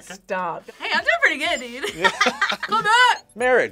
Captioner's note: laughs